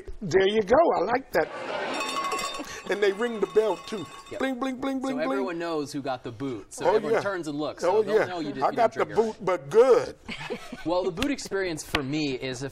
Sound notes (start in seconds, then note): 1.5 bell rings